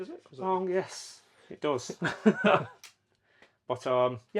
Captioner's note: laughs